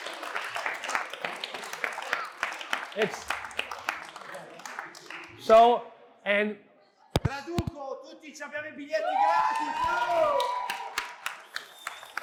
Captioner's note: applause